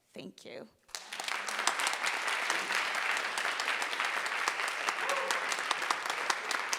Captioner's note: audience applauding and cheering